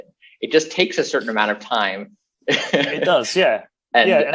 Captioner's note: laughs